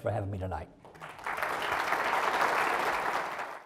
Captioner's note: applause